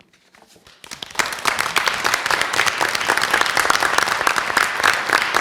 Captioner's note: applause